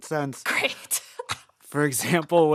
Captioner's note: laughter